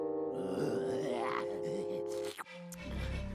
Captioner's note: growling